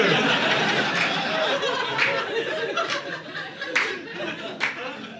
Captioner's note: audience laughing